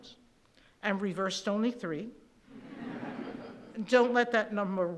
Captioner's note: laughing